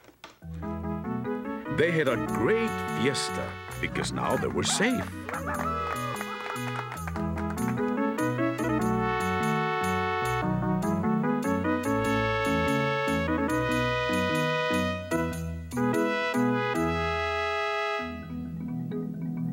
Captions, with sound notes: They had a great fiesta because now they were safe. (crowd cheering) (traditional music)